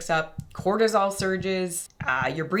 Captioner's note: heart beating